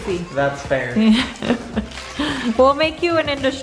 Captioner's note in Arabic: يضحك